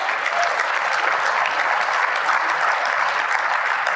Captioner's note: applause